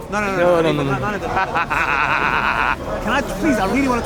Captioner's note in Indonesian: Tertawa tak pasti